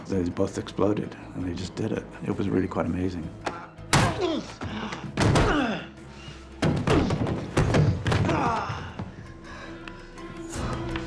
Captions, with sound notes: and they just did it. It was really quite amazing. [grunting] [panting]